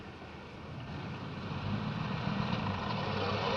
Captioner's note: car driving off